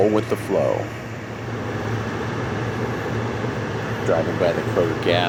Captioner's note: engine sound